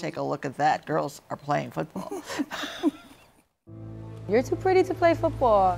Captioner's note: laughter